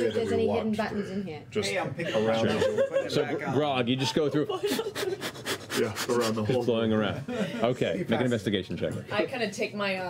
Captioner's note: rapid blowing